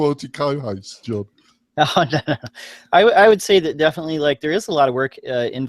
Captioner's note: laughs